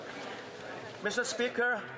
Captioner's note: some Applause